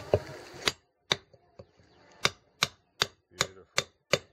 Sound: banging

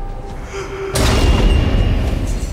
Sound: Jesse gasps

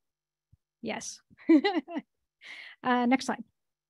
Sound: chuckles

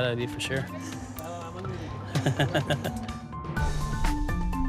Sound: chuckles

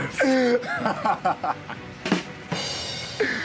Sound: both laughing; punchline drum sound

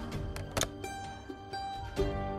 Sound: receiver clanks

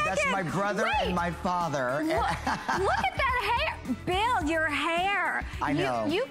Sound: laughter

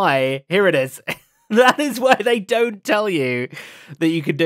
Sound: laughs

